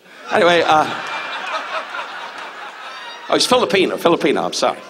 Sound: audience laughs

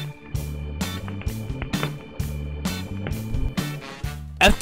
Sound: fire crackling

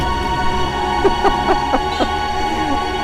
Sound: laughs

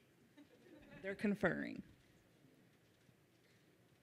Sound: whispering

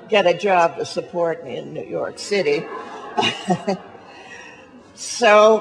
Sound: laughs

